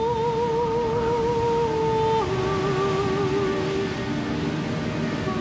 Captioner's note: waves crashing; somber music